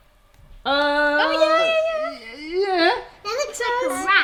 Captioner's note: exclaiming